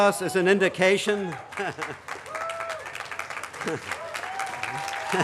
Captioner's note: cheering, applause